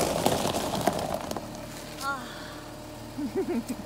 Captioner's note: exasperated sigh; giggle